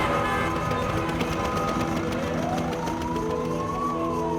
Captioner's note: sirens wailing; men shouting in Arabic